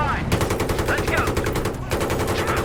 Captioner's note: gun blasting